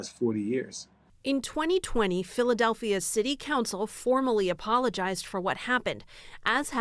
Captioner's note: voice-over